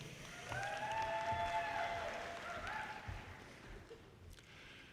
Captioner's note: audience cheers